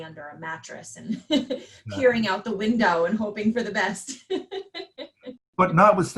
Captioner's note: laughs